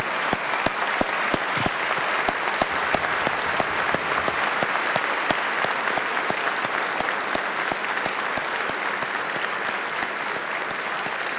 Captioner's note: applause